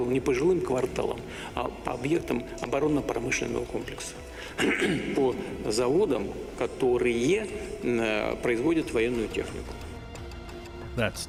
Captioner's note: speaking alternate language